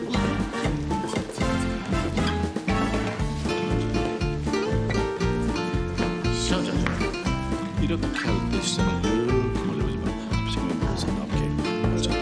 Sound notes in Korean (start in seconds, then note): none